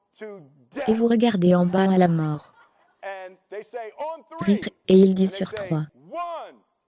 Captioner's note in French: Rire